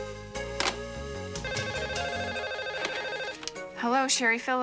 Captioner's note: phone ringing